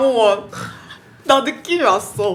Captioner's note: snorts